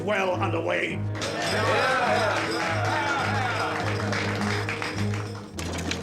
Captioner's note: cheers